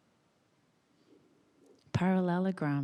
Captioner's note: none